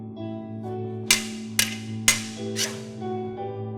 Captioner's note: swords clanking